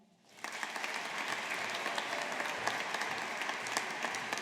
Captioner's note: audience applauding